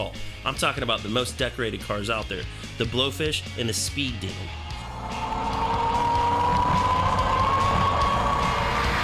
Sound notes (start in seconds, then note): 4.6 car engine roaring